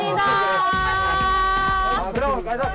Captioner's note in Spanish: Muy entusiasmada